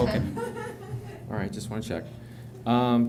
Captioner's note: laughter